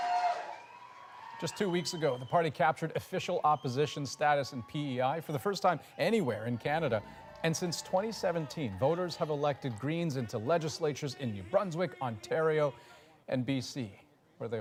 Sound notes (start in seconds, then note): 4.0 cheers and Applause